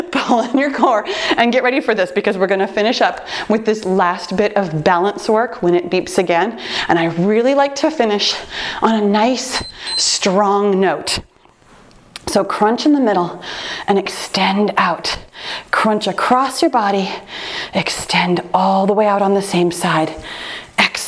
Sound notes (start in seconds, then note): 9.5 timer beeps